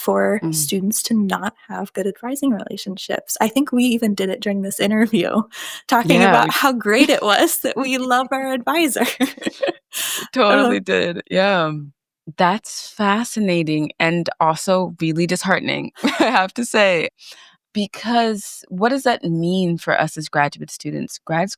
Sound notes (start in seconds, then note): 9.0 chuckles